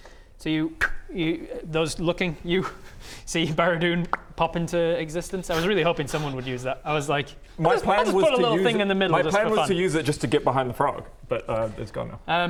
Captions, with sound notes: So you you, those looking at you see Baradun *pop* pop into existence, I was really hoping someone would use that I was like I'll just put a little thing in the middle, just for fun My plan was to use it just to get behind the frog but it's gone now